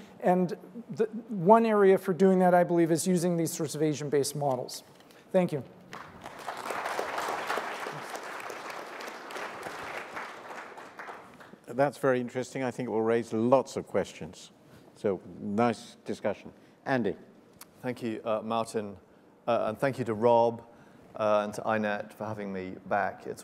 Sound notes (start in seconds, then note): 5.9 applause